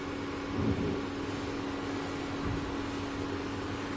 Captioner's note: thump